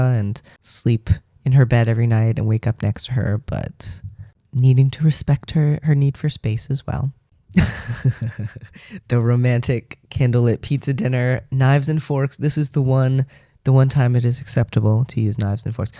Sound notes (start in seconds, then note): 7.6 laugh